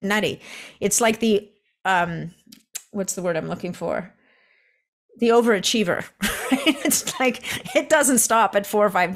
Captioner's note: chuckles